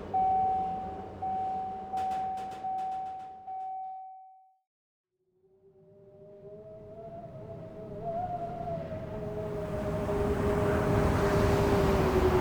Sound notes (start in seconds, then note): 8.0 rushing air